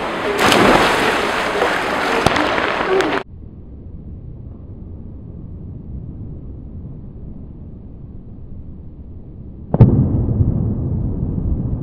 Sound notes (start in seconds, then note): 0.0 splash; 3.1 low rumble; 10.4 echoes